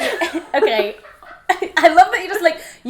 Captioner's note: laughs